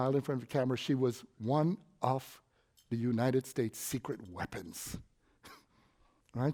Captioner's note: laugh